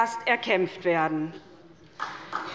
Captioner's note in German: Beifall bei der SPD, dem BÜNDNIS 90/ DIE GRÜNEN und der LINKEN